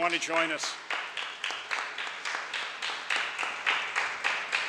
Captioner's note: audience applauds